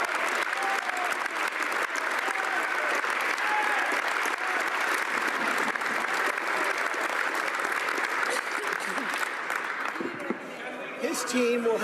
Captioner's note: applause